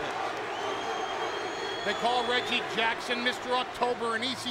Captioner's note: applause